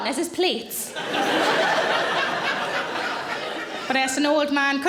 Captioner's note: audience laughing